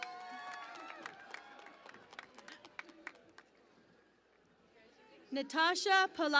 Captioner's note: cheering and Applause